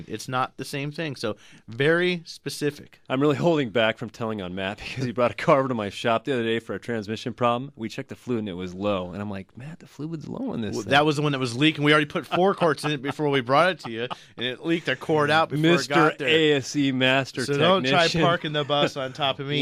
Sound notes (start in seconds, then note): 12.2 laughs